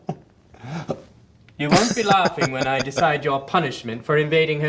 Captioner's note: laughing